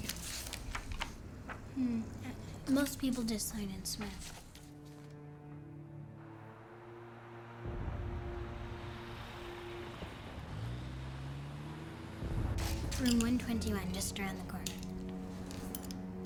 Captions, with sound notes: There you go. - Hmm, most people just sign in Smith. (car approaching) Room 121, just around the corner.